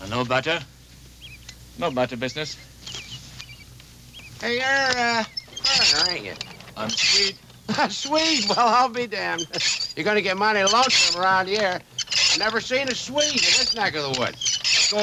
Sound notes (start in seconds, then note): 7.6 chuckles